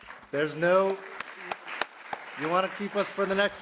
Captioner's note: audience clapping